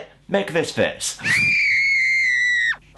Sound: screams

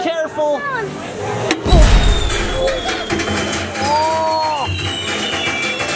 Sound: firecrackers exploding

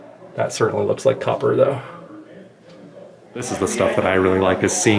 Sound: none

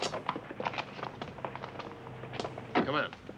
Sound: pattering feet

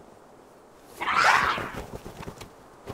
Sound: growling

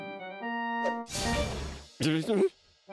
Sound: murmurs

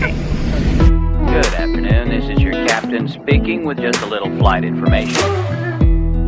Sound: pilot speaking and upbeat music

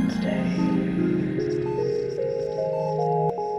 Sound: gradual fade in of regular heart monitor beeps; music fades out

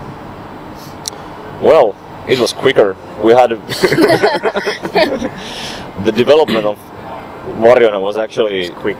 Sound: laughs

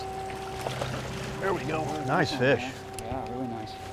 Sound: fish splashing

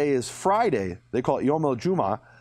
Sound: speaking in a foreign language

